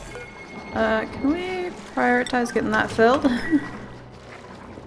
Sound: laughs

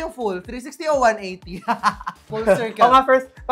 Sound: laughs

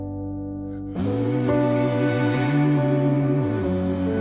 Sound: people humming

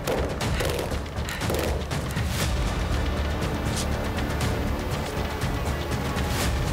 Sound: dramatic music; heavy breathing

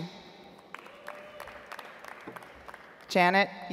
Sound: audience applauds

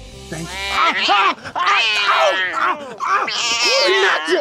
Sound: yowling, screaming

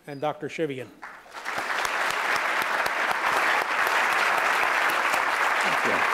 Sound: applause

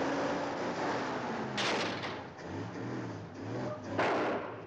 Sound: metal crunches; engine sputters

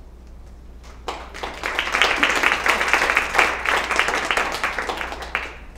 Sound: applause

